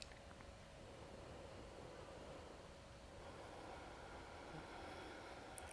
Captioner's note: deep breathing sounds